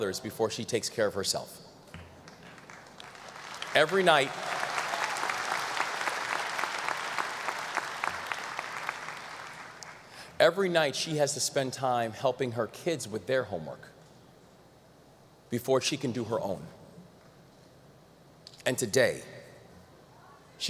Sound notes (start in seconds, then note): 2.3 audience applause